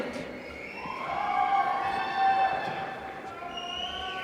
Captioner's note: applause